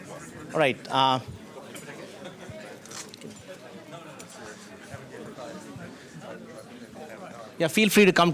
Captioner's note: background chatter